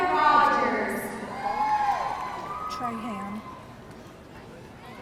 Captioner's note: audience cheering